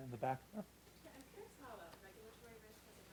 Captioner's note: voiceover